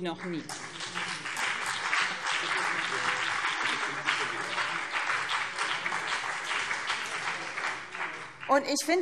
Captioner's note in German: Beifall BÜNDNIS 90/DIE GRÜNEN und CDU